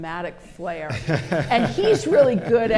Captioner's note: laughter